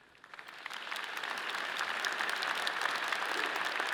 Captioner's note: all applauding